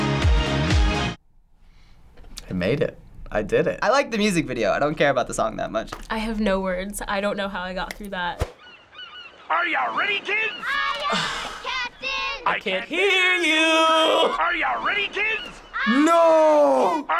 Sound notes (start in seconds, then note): 8.4 seagulls squawking; 10.8 groaning